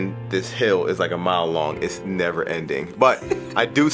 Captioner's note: laughing